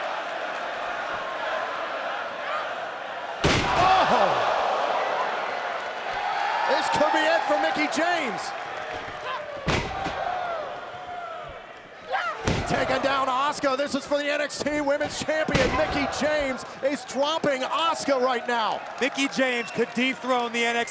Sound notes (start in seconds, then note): 3.4 canvas thumps; 9.4 canvas thuds